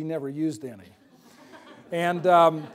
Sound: laughter

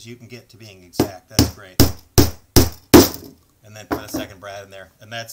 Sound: hammer sounds

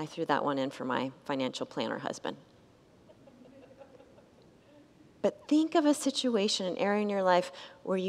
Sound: congregants laugh

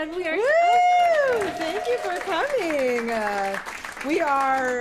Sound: applause

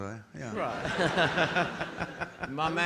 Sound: audience laughing

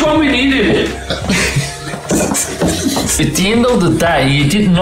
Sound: laughing

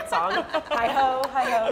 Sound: laughter

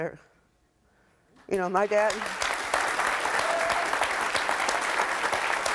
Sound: audience applauds

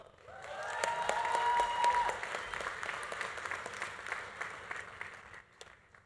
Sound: audience applauding; audience cheering

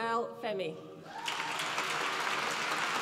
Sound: applause

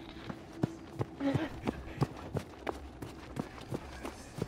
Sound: footsteps running

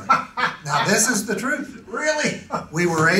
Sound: laughs

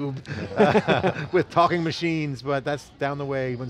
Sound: laughter

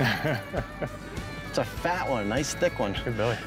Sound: laughing

